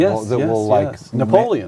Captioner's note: multiple voices speaking